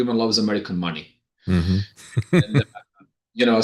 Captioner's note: laughing